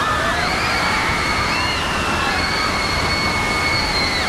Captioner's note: women screaming